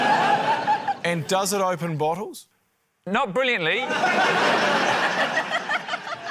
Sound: laughter; laughter

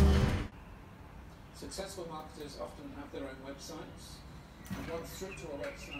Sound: news program in background

